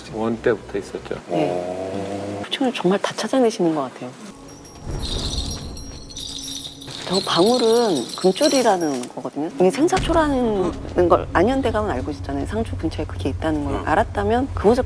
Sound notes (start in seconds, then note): 4.4 Eongol bells and Ashin bells